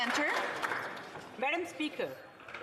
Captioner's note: applause